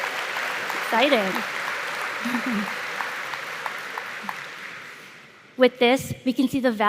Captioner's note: applause